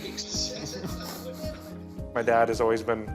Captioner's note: laughter